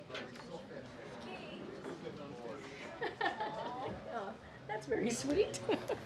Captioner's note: laughs